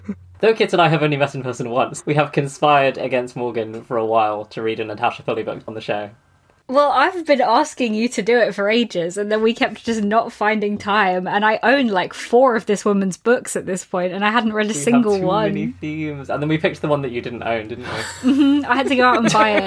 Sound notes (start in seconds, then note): 17.8 laughs